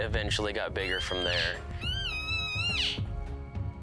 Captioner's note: elk calling